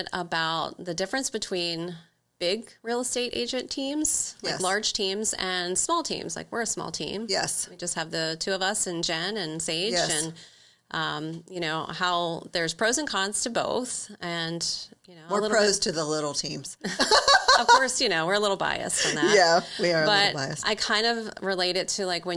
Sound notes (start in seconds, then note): 16.9 laughs